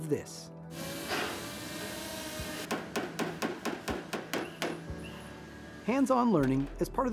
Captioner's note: background Sounds & Banging